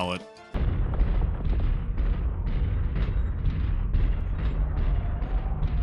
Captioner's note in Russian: звучные шаги; быстрые, лязгающие шаги